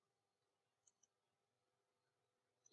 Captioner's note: computer mouse click